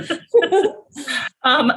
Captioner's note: both laugh